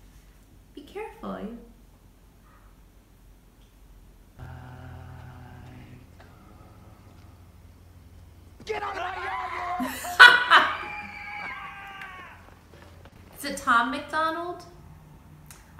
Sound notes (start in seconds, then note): 8.1 kids screaming; 10.7 loudly laughs; 10.7 shouting